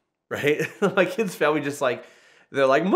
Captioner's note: laughs